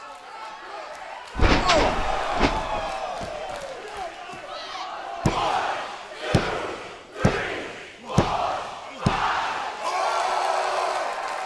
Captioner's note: crowd cheering; crowd cheering